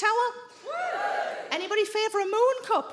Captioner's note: some women whoop